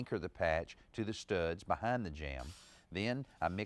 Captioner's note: drill whirring